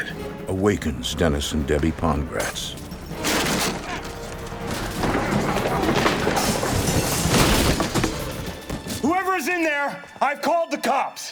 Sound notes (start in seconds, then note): 2.8 crashing and clattering